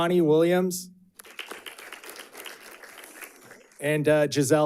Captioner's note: audience clapping